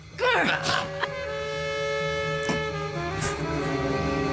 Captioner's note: Rachel grunts